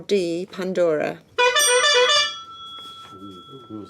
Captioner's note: buzzing